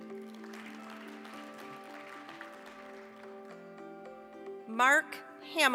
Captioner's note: applause